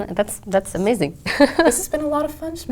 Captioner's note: laugh